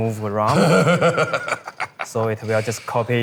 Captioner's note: laughing